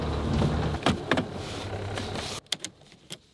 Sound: clicking; cranking

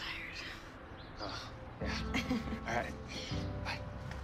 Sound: laughs

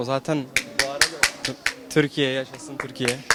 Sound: clack smack

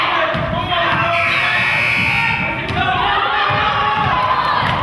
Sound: buzzer goes off

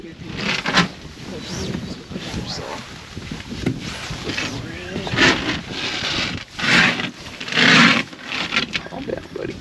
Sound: background chatter; fish thrashing

